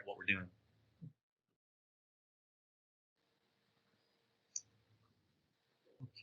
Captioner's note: pause